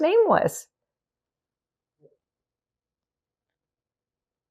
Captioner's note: pauses 6 seconds